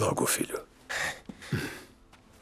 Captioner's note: scoffs